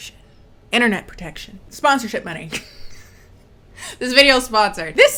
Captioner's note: laughs